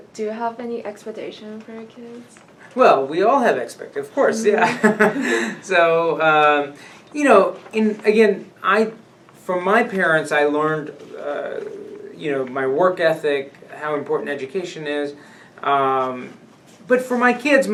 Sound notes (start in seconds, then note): 4.2 laughs